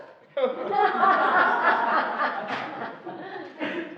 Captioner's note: laughing